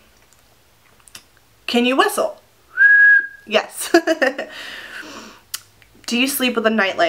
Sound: whistle noises

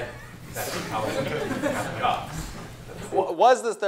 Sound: laughter

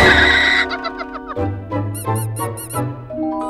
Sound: screaming; dramatic music playing; laughing

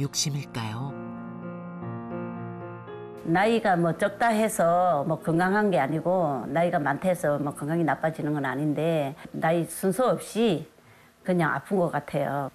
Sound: voiceover

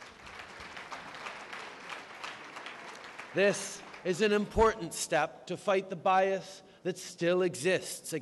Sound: applause

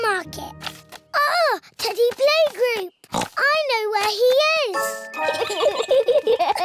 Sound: oinks; both giggle

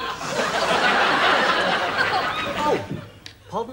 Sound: laughter

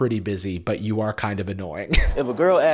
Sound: laughs

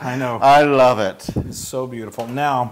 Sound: laugh

